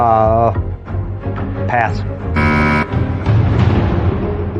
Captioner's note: buzzer sounds